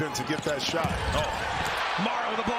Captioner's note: crowd noise; cheers and applause